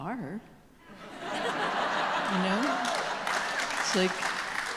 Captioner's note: audience applause and laughing